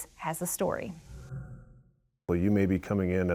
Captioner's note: screen whooshing